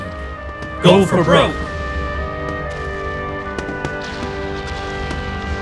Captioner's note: marching footsteps